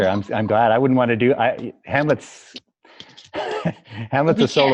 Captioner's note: laughs